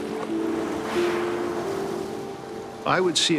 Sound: killer whales spouting water

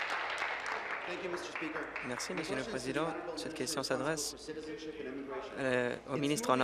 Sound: applause

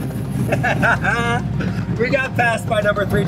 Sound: laughing

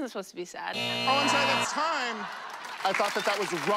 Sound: buzzer

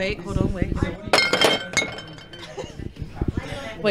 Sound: glasses clinking

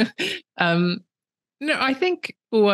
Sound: laughter

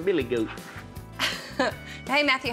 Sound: laughs

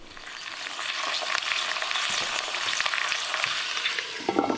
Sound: meat sizzling

